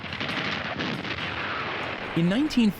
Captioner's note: guns firing